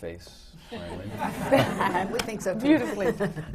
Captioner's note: laughter